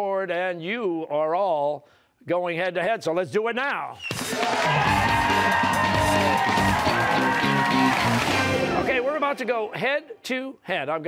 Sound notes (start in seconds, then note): 4.1 cheers and applause